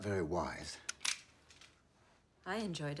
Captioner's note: gun cocks